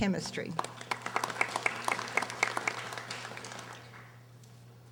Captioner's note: audience applauding